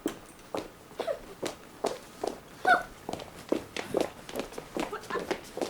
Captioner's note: Cecily and Gwendolen scoff